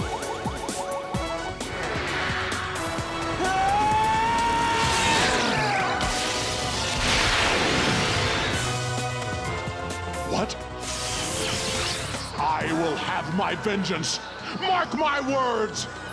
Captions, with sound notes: [grunting] What? I will have my vengeance! Mark my words!